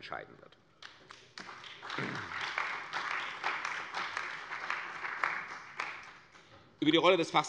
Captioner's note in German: Beifall bei der CDU und dem BÜNDNIS 90/DIE GRÜNEN